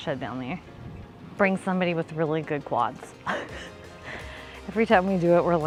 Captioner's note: laughs